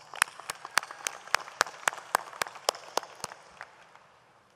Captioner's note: audience applauds